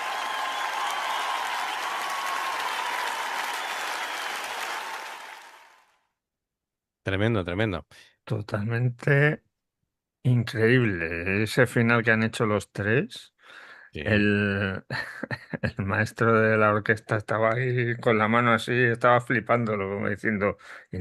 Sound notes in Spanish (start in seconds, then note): 0.1 ovación; 3.5 aplausos